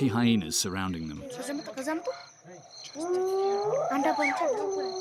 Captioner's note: speaking in foreign